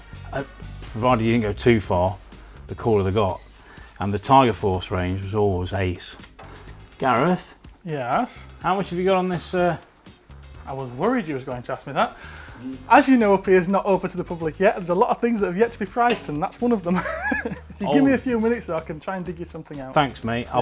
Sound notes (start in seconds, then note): 16.9 laughs